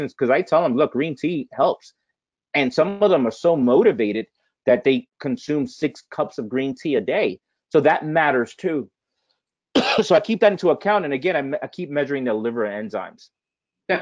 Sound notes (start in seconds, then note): 9.7 coughing